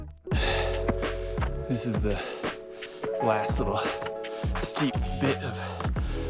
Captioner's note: exhales